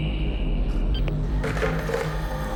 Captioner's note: phone beeps